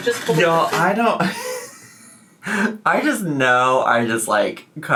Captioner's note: laughs